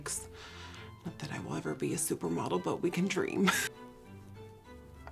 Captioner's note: laughs